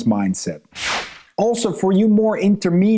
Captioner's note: transition whooshing